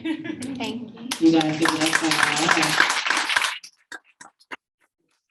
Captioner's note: audience applauding